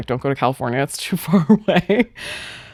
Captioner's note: chuckles